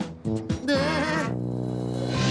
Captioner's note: falsetto grunt